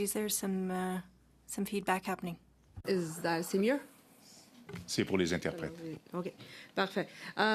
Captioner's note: speaking French